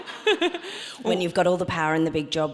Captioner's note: audience laughs